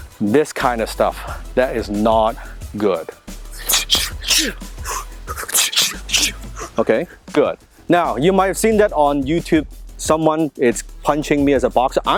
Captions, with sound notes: this kinda stuff. That is not good. (fighting noises) Okay, good. Now, you might seen that on YouTube someone is punching me as a boxer.